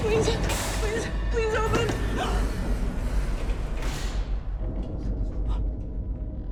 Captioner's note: gasps; elevator door whirring; eerie music